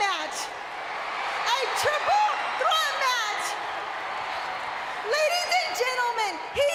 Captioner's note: crowd cheering